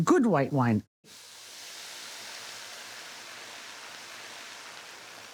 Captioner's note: pan sizzling